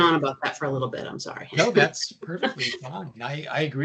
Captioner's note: chuckling